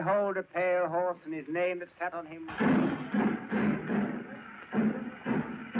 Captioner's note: train chugging